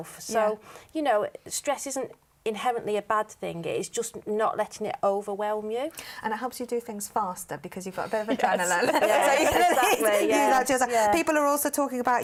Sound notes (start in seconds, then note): 8.5 laughter